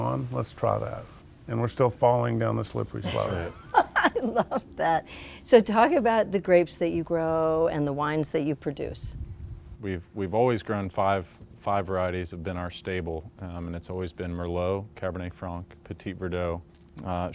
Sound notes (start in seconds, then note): 3.0 laughs